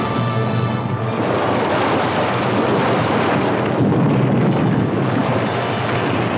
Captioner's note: suspenseful music continues; water gushing continues; stones rumbling; suspenseful music